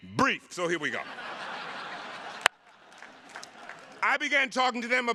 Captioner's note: attendees laughing